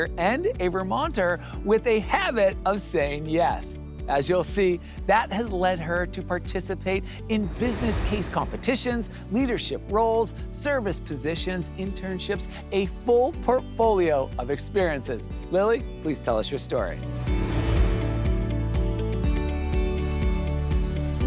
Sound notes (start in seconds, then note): 17.0 air whooshes; 17.9 upbeat music